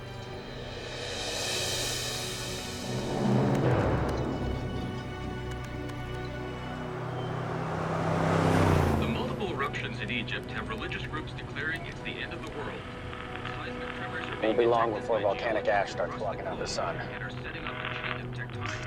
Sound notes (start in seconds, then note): 3.5 keys clacking; 8.7 man on radio; 17.4 distorted radio chatter